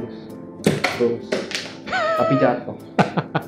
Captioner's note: dart falls down